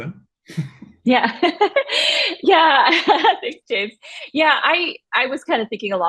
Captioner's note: laughs